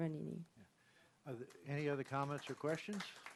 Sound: applause

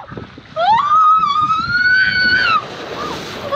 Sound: screaming

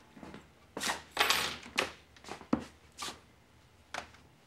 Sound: keys clanging

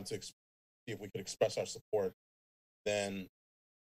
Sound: speaks faintly

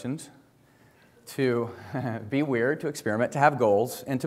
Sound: chuckles

